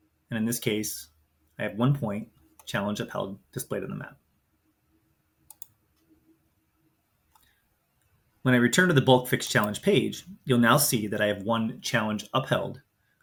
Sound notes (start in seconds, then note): 5.4 mouse clicks